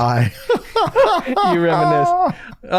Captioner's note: laughter